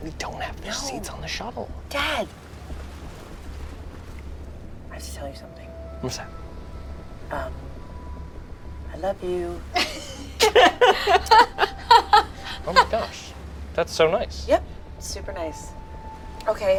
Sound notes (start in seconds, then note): 9.7 laugh